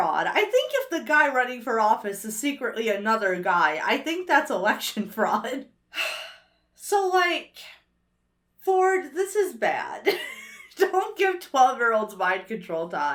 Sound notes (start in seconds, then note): 5.9 sighs; 10.0 laughs